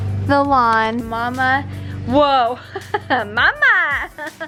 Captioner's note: laughs